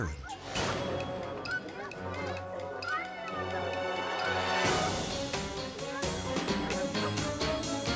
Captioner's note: inquisitive music; people clamoring